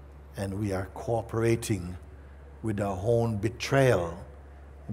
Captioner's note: none